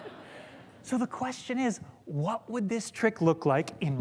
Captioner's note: laughter